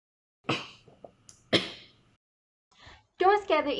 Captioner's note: cough from drinking